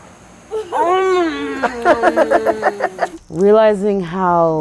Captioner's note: family laughing